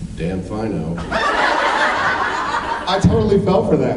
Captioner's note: laughs